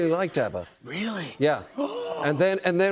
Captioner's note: gasps